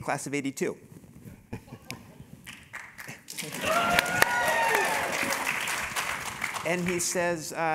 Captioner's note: applause; laugh